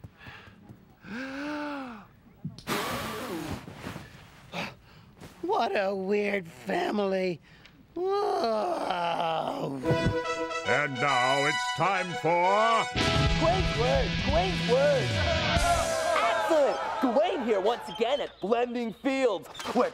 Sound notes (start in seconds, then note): 2.5 blowing; 8.0 groans; 9.4 thud; 14.8 crowd cheering